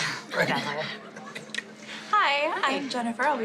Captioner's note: laughs